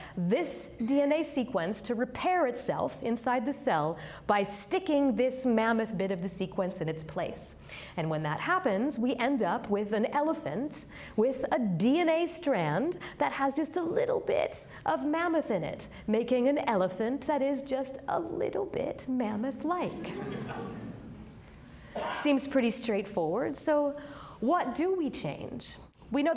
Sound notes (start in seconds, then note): 19.9 audience laughing